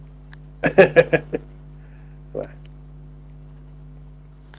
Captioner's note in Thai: เสียงหัวเราะ